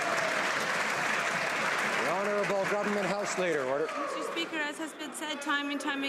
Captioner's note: some Applause